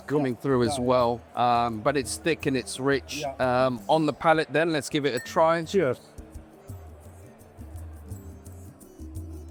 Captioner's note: clink